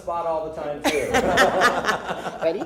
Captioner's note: laughter